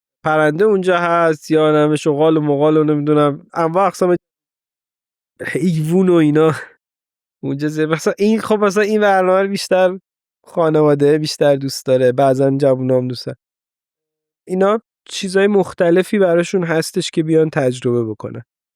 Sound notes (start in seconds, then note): 6.3 laughs